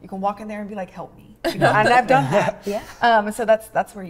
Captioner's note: chuckle